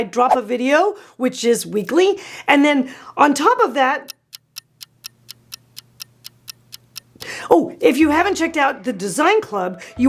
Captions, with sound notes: every time I drop a video, which is weekly. And then on top of that... (clock ticking) If you haven't checked out The Dezign Club,